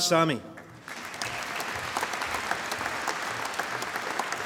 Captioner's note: applause